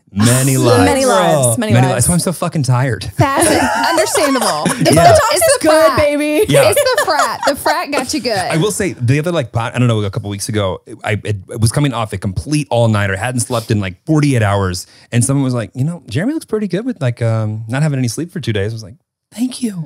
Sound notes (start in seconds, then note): 3.4 everyone laughs